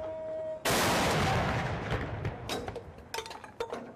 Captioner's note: gunshots